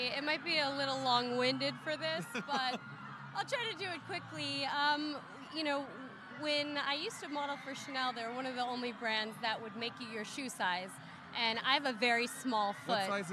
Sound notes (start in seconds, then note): 1.8 interviewer laughing